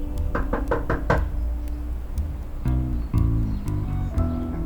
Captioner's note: knocking on door